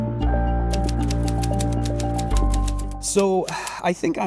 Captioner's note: typewriter sounds